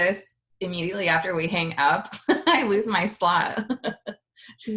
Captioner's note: laughs